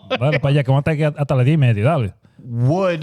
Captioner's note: speaking In Foreign Language